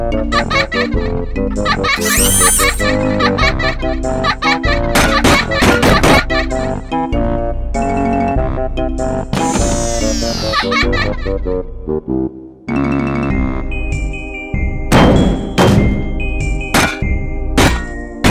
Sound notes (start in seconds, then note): 4.8 child Laughing; 10.2 laughing Stops; 13.1 child Laugh; 14.9 bang, Crash